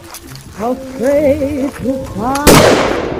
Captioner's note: gun shot